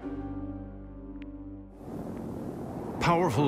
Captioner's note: wind howls